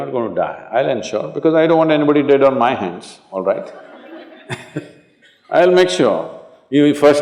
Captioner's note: laughter